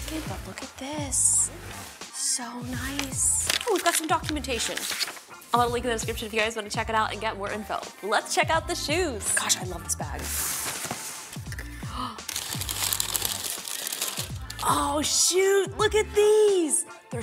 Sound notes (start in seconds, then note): 11.5 gasps